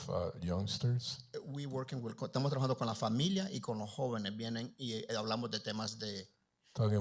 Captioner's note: Spanish language